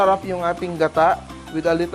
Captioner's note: sizzle